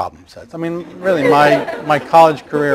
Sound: laughter

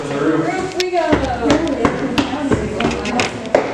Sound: stair clunking

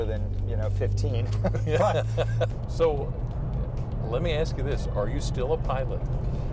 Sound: laughter

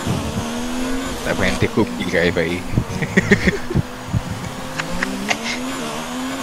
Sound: laughs

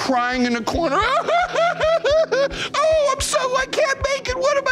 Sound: fake crying

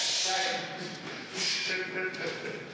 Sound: laughing

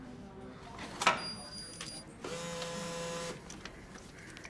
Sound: machine whirs

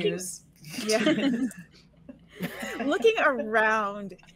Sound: all laughing

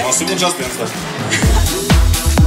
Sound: laughter

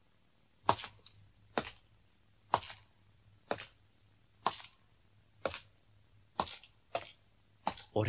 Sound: SFX: slow footsteps

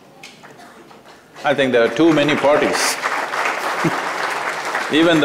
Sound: laughs; applause

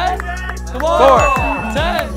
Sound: bell dings

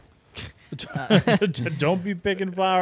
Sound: both laughing

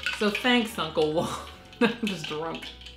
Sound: laughter

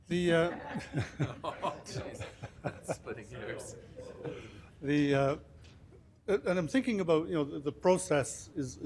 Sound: laughing

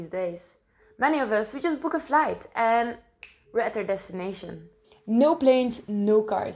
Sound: snap

